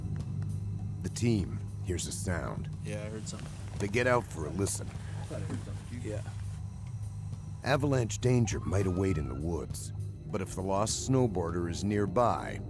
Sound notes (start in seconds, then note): 5.6 siren blaring